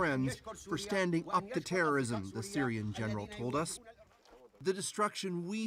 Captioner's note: speaking French